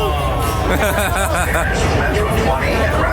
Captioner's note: laughing